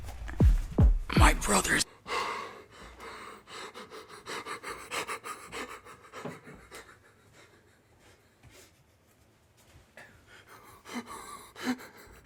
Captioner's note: heavy breathing